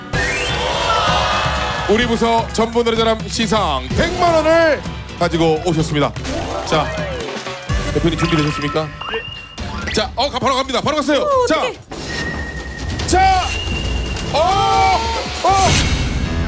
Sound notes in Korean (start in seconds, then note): 11.9 두구두구두구두구두구두구두구둑; 13.8 둑두구두구